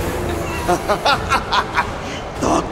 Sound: evil laughter

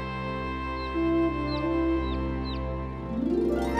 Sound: birds chirping

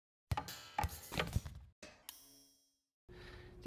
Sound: clicking; clinking

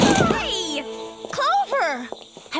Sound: crash

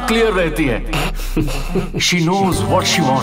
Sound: laughing

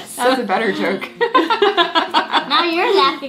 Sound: both laughing

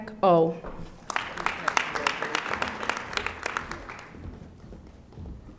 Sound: audience applauding

